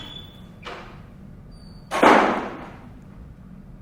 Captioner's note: door slams shut